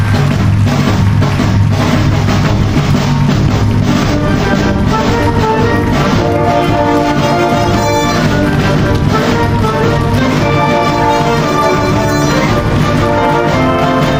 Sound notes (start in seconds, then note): 8.7 audience applauding continues